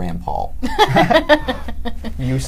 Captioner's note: laughter